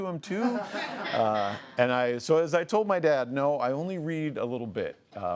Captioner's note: laughs